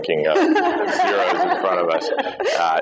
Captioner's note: laughter